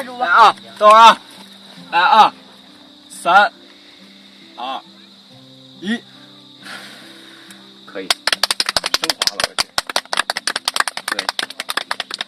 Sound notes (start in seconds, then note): 8.0 clapping